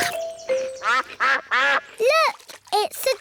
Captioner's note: quacking